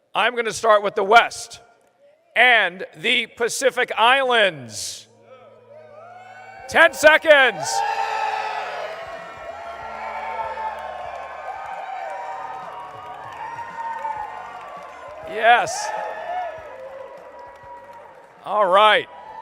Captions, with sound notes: I’m going to start with the west and the Pacific Islands. [cheering] Ten seconds. [cheering and applause] Yes. All right.